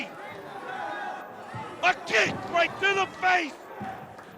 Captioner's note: crowd chatter